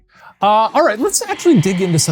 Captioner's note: voice whispering